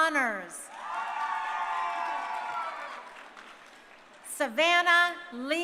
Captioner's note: crowd cheering